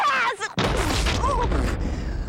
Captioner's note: sputtering